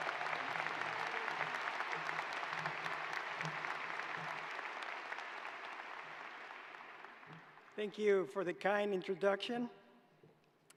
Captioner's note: applause